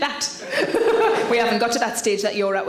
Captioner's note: laughing